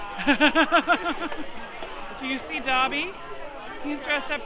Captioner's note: laughs